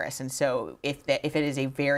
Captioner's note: none